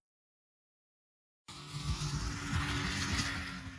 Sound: snowmobile engine

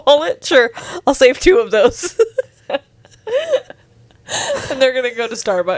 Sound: laughs

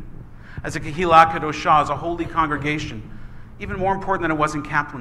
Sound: foreign language

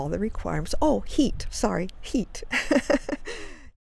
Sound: laughs

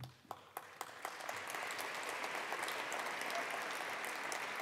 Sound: attendees applauding

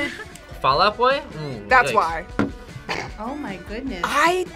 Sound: laughs

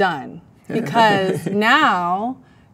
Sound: man laughs

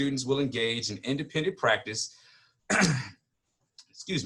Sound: clears throat

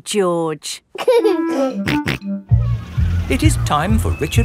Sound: giggling and snorting

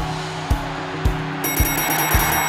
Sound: bell ringing; cheers and applause

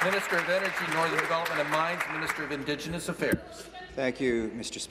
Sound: applause

